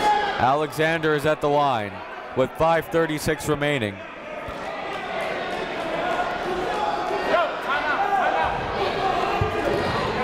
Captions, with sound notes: Alexander's at the line with 5:36 remaining. (crowd talking)